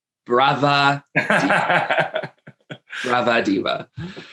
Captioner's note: laughs happily